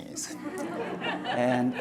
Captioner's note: audience laughs